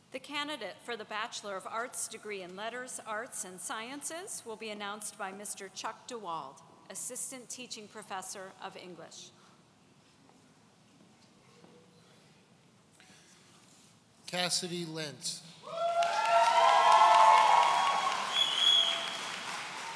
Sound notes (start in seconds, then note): 15.6 audience cheering